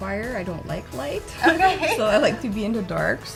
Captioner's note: laughing